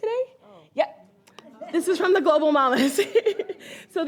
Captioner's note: laughs